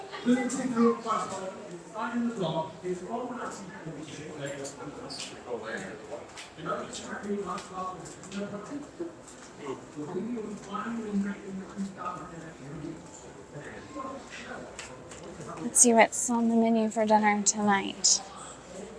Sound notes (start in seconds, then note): 3.9 background chatter